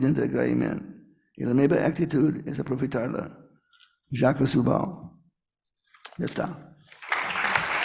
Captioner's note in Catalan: Aplaudiments